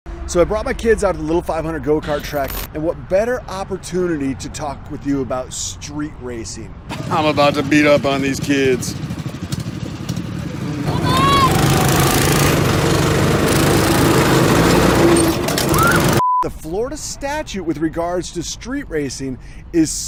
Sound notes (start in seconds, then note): 10.0 roaring go karts; 10.9 teenage girl screams